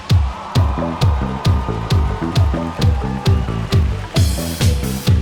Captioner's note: audience applauding